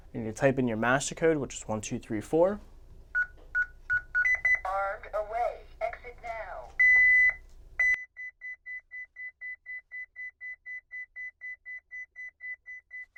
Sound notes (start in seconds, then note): 2.6 beeping; 6.6 high-pitched beeping